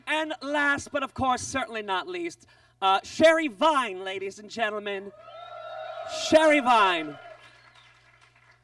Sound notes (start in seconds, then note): 5.2 audience cheers